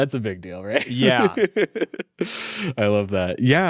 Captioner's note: laughing